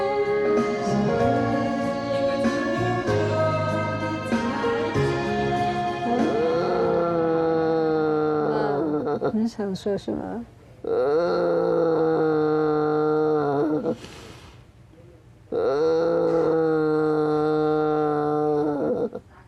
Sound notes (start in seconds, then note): 6.1 grandmother murmuring; 6.3 speaking in foreign language